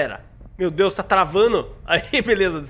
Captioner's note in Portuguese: risos